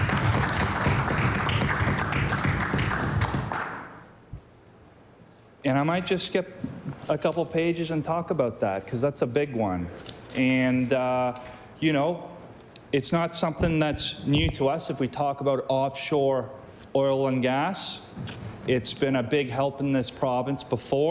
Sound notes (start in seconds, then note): 3.8 applause